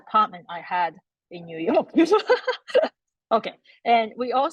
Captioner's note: laughs